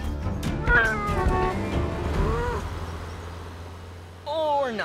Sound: meowing; horn honking

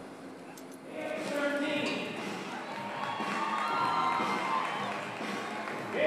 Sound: applause

